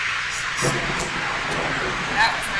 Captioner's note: thunder cracks